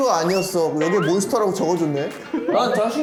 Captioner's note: bonk